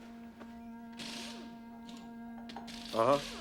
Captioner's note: sighs; drilling